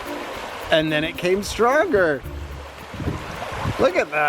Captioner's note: water rushing